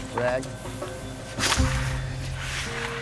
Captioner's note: hisses